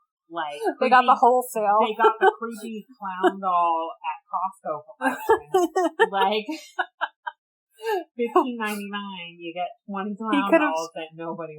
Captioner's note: laughs